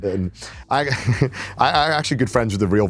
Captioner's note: chuckles